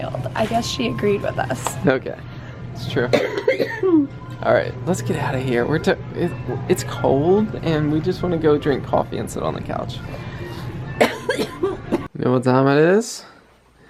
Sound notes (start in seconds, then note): 3.0 coughs